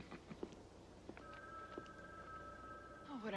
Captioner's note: telephone ringing